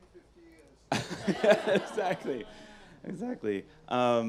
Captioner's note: laughs